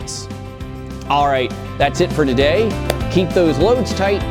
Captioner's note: claps